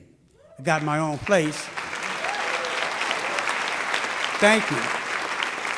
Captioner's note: audience applauding